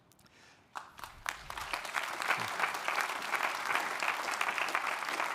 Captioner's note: audience applauding